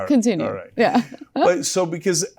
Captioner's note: laugh